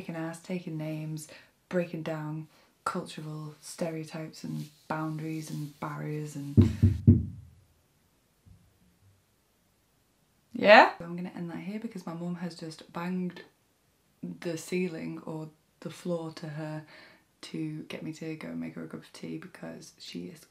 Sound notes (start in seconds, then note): 6.6 interrupted by LOUD KNOCKING